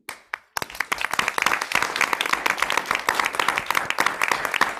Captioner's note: audience clapping